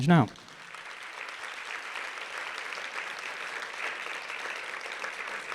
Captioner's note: audience applauding